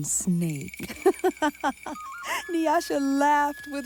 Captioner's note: Nyasha laughing